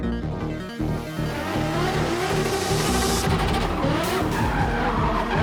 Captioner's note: car engine roaring